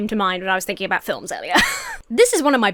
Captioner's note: Emma laughs